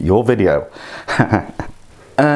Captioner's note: laughs